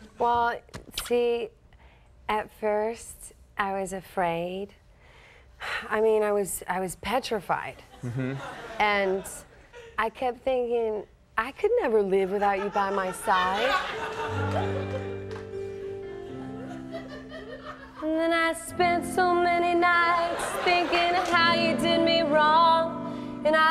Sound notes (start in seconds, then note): 8.0 audience laughs; 13.9 light piano music; 13.9 audience laughing; 14.9 audience laughs